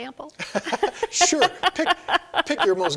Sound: laughing

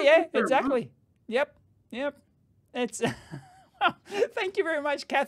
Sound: chuckling

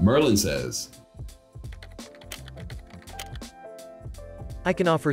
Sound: keyboard clicking

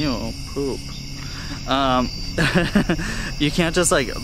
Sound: laughter

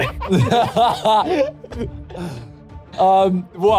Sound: laughing

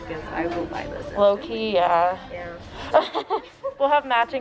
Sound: laugh

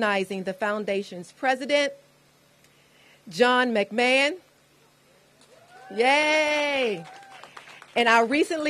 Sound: applause

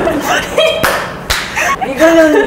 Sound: laughs

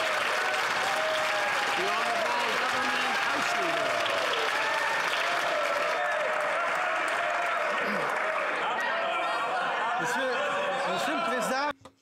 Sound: some Applause

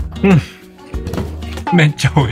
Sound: thud

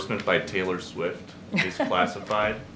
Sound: laughs

